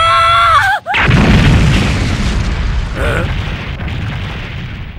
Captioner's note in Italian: esplosione